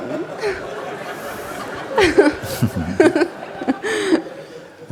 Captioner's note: laughter